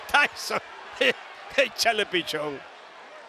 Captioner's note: laugh